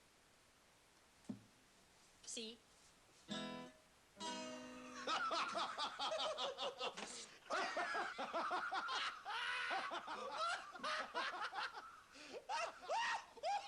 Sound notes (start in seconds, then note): 4.8 Hoss and Joe laughing